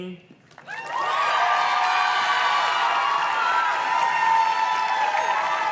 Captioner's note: audience cheers and claps